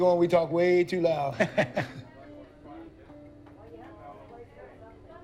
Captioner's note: bartender chuckles